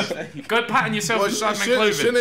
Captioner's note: laughing